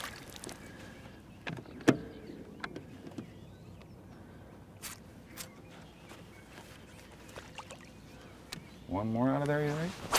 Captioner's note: fish splashing; bait plopping in water